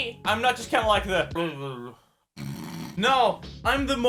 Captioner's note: snores